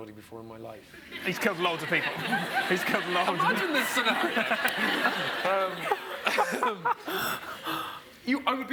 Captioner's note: audience laughs